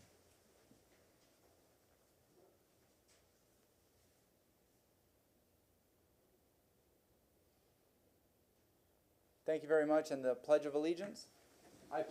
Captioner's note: moment of silence